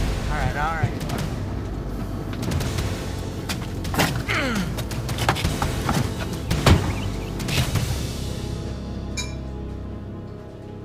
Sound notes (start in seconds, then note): 6.6 car door slams; 9.2 pots and pans clang